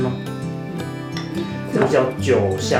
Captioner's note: nonverbal grunt as interjection